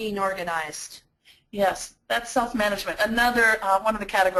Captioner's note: voiceover